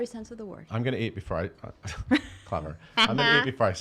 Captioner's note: laughing